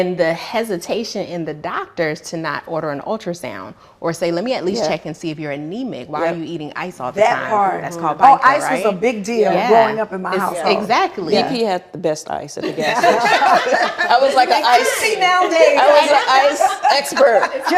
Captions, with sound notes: And the hesitation in the doctors to not order an ultrasound, or say, "Let me at least check and see if you're in NEMI while you're eating ice-off signs." - That's hard. - That's called bologna. - Ice was a big deal going up in my house. - Exactly. - If he had the best ice in the kitchen. (laughing) - I was like, "I see now, Dave." - I was like, "Expert."